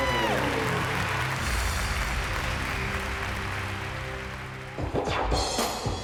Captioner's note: applause; applause and cheering; upbeat pop music